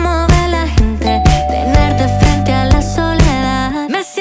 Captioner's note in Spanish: timbre suena